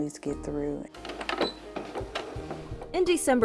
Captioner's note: sewing machine clicks